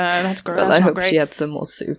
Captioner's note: chuckles